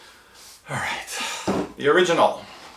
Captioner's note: sighs